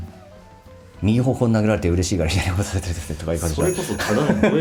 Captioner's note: laughs